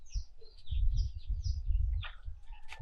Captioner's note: birds whistling